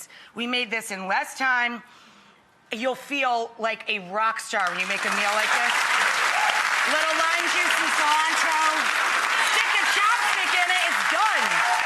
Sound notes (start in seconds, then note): 4.5 audience clapping